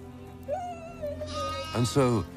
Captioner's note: whimpering